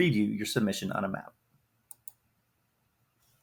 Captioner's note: mouse clicks